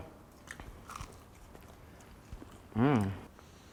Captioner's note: crunching sound